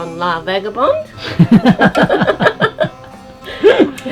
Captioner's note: laughs